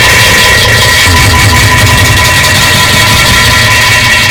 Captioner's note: farting and BOOM BOOM BOOM